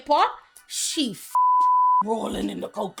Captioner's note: beep